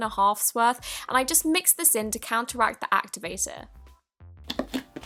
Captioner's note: satisfying squishes